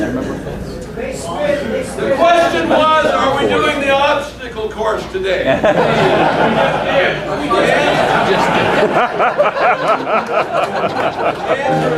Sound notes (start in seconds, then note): 5.4 crowd laughing